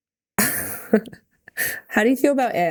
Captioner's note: Mikaela laughing